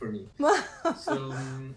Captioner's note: laughing